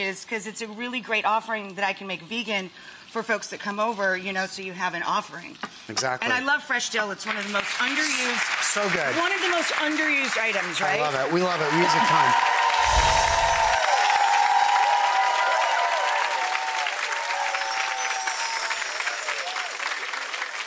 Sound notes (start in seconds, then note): 8.0 audience applauds; 13.2 audience applauds